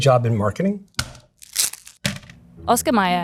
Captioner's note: package thunks; plastic rustling